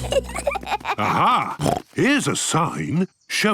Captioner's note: children giggling; snorts